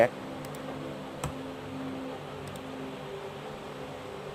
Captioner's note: mouse click